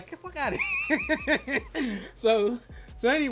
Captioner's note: laughs